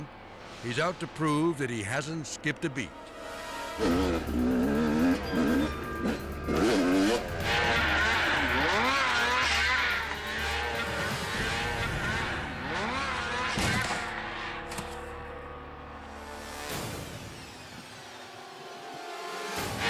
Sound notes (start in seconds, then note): 3.1 edgy dramatic music; 4.2 snowmobile buzzing; 5.8 edgy dramatic music; 5.8 snowmobiles buzzing; 9.8 edgy dramatic music; 9.8 snowmobiles buzzing; 13.2 snowmobile thudding; 15.1 edgy dramatic music